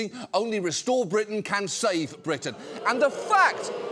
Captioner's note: audience boos